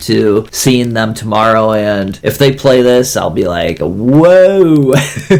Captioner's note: laughs